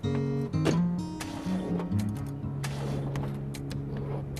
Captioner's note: car englne stallllng